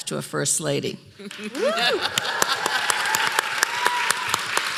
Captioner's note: applause